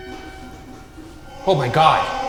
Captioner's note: printer clicks